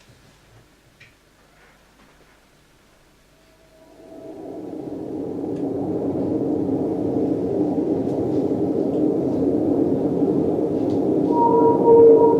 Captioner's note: beautiful High-Pitched Whale song